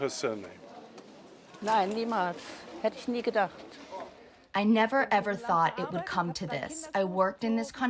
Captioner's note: through translator